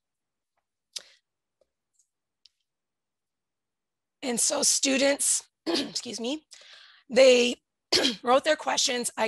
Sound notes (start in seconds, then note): 5.2 clearing throat